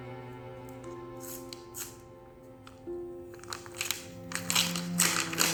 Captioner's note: rustling paper